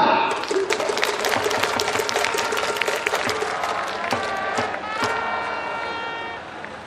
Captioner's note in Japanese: 拍手･応援